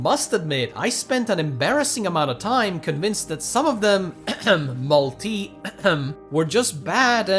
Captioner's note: cough